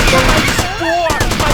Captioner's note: gunshots